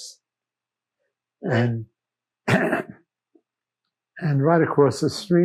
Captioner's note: clears throat